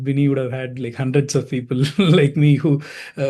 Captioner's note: chuckling